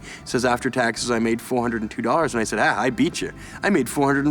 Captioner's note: none